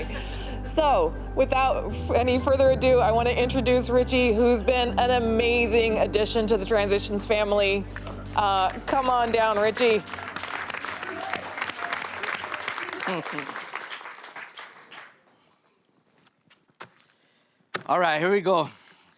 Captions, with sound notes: So, without any further ado, I want to introduce Richie, who's been an amazing addition to the Transitions family. Come on down, Richie. [APPLAUSE] All right, here we go.